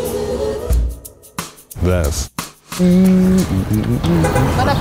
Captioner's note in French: fredonnement